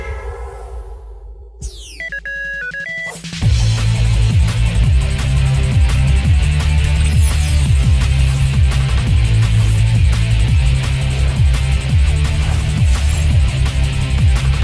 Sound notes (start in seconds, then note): 1.6 beeping; 2.4 theme music